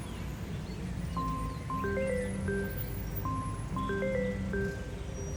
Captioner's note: phone ringing